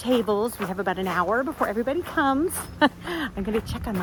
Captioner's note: laughs